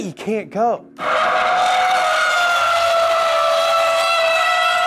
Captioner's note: tires squealing